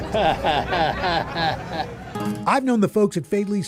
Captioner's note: chuckles